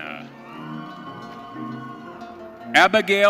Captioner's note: audience cheering